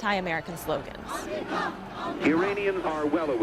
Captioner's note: crowd chanting